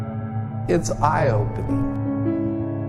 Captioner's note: voice over, male